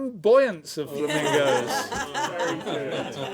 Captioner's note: laughter